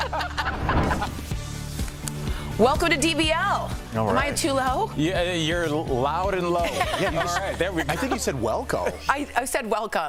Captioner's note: laughter